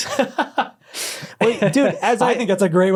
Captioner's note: laughs